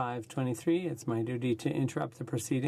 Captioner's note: speaking French